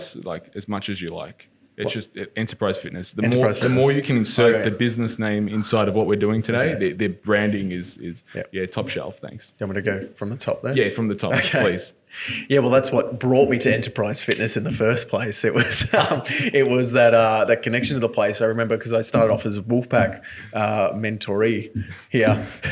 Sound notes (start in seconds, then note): 11.3 laughs